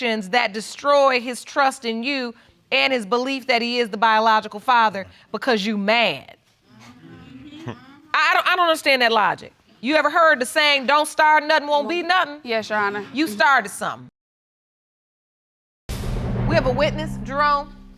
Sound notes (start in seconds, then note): 6.9 audience agreeing